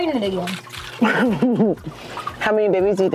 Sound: laughs

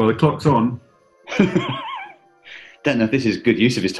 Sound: laughing

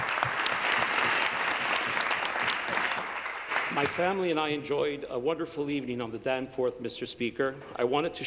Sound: applause

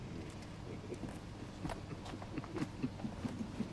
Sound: laughing

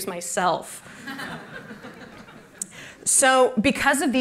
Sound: laughter

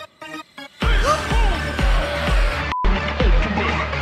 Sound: sharp gasp

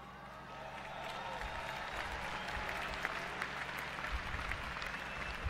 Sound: audience applauding and cheering

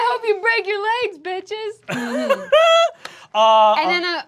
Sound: laughing

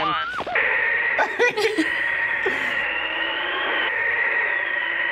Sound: both laughing

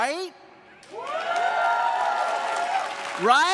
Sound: crowd cheers and claps

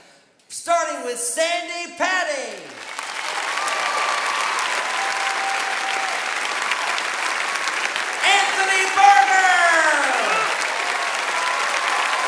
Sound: cheering and applause

